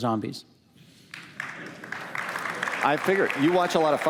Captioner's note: applause